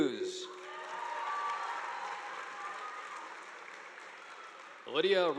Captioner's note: audience applauding